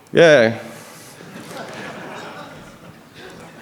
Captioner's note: laughter